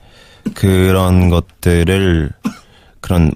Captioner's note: kept coughing